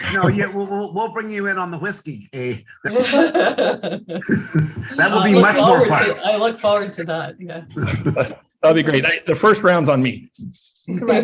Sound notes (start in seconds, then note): 2.8 laughs; 4.3 chuckles; 7.7 chuckles; 7.8 laughs